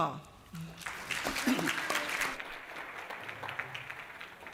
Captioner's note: applause